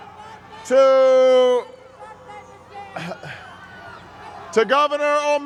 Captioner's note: crowd cheers; coughs